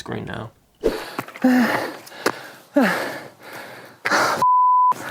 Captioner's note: breathing hard, out of breath